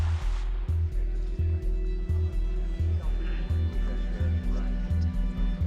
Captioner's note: people talking in background